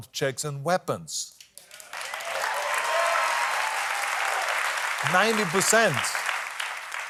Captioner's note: applause